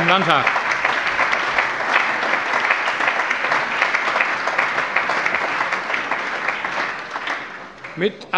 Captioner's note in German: Allgemeiner Beifall